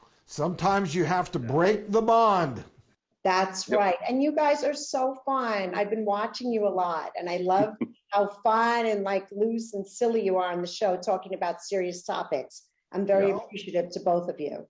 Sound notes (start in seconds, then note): 7.5 laughing